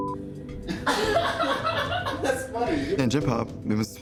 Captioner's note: laughs